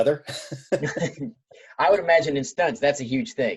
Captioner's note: laughing